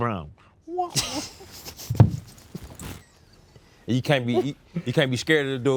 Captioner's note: both laughing